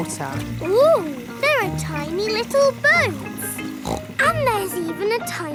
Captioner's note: snorts